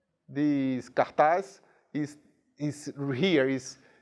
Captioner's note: speaking in a foreign language